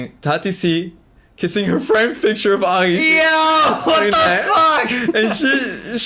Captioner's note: laughs